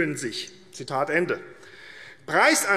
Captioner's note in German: none